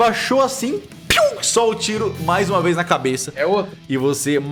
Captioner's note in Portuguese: pow